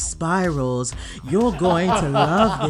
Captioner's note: judges laughing